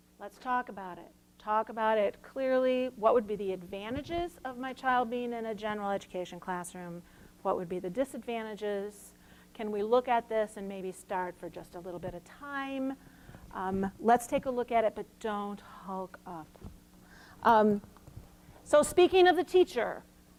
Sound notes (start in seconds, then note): none